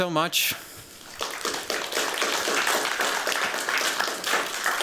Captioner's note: applause